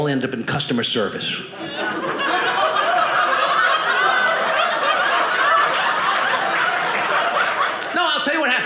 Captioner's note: audience laughing